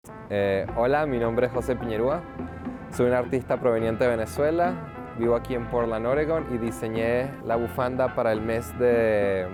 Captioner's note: speaking Spanish